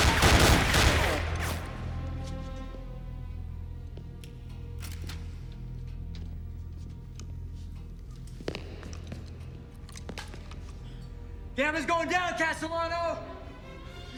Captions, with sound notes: (gunfire clattering) (footsteps tapping) - Gammon's going down, Castellano.